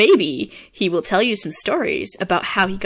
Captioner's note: none